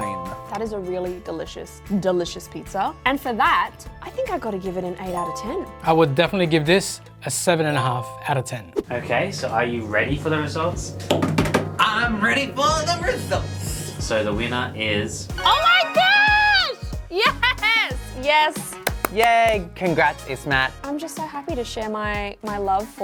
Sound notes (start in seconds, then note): 11.1 hands thumping; 18.6 clapping hands